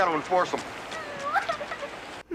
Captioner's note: girl cries at the apparent death of her turtle friend